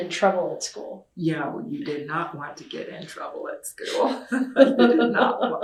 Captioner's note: laughter